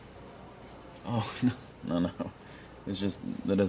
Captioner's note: chuckling